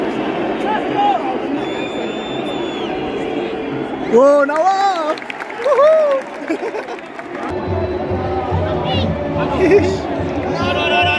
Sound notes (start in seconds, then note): 4.5 clap